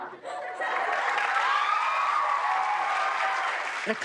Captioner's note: laughter